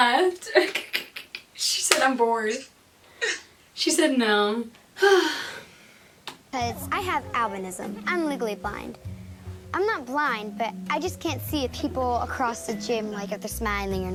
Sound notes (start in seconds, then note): 0.5 laughs; 5.0 sighs